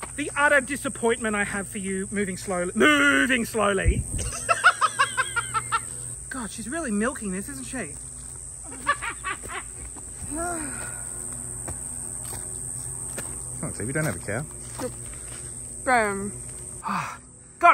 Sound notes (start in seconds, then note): 4.2 laughs hysterically; 8.6 laughs loudly